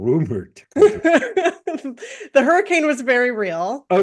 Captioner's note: laugh